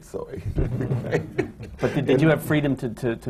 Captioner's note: laughs